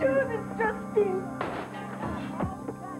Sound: glass shattering

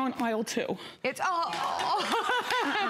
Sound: laughter

